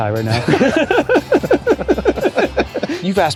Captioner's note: laughter